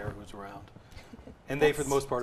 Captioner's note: laughs